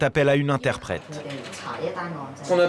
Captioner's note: foreign language